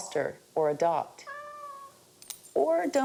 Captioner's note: cat meows